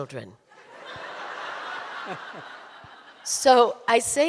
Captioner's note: audience laughing